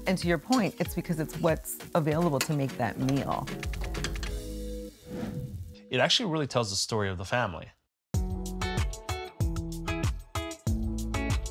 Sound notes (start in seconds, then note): 4.8 air whooshing; 8.1 upbeat groove music